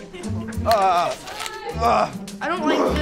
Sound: groaning

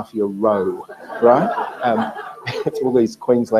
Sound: laughing

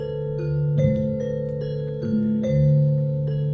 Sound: gentle metallic sounds

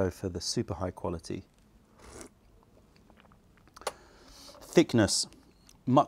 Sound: sips tea

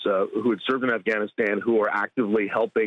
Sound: speaking French

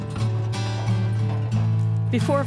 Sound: guitar music; wagon clatters

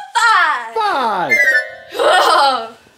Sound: playful magical sound

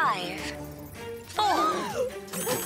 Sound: gasping

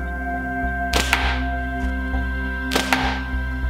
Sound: thwack

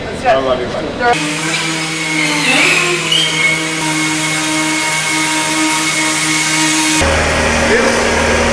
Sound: Loud mechanical sounds of Zamboni

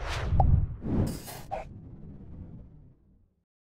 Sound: whooshing

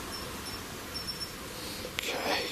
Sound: device beeps

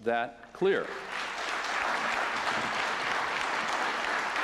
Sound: applause

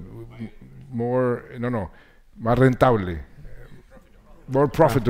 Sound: speaks in foreign language

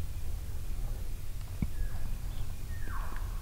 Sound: caller cow calling

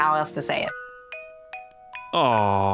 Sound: bells chiming

